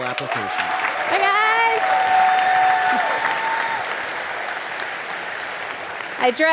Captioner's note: audience applauding